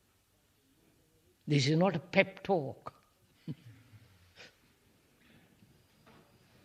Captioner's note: laughs